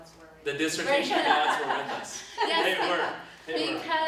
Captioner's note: both laugh